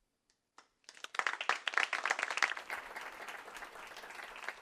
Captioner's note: applause